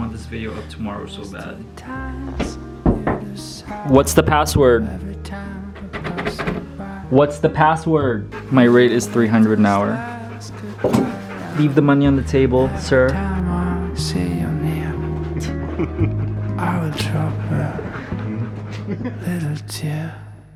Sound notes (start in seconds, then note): 2.8 knocks at door; 5.8 door handle shakes